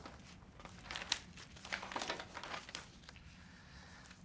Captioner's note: papers shuffle